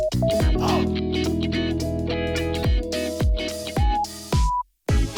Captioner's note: haha